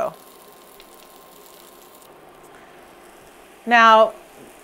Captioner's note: fish sizzling